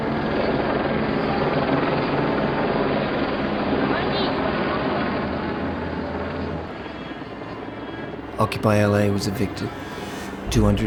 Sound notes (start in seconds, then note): 0.9 helicopter propellers roaring; 8.3 voiceover